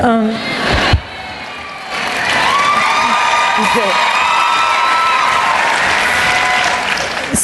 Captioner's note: cheering and Applause